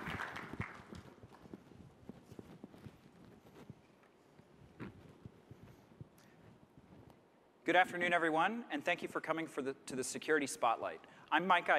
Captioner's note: applause